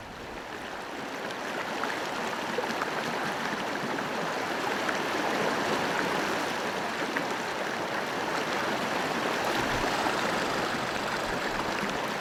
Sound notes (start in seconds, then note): 0.2 rushing water; 9.8 squirrel chattering